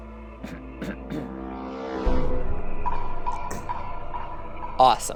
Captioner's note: clearing his throat